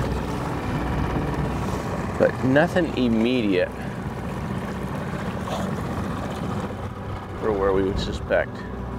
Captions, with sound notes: But nothing immediate (engine chugging) for where we would suspect.